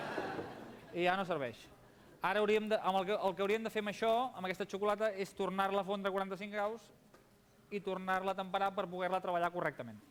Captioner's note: laughter; non-english speech